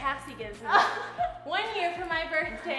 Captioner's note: laughing